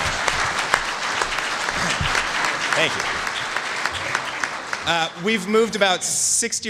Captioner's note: applause